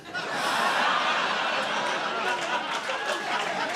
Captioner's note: audience laughing